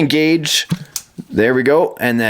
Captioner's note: click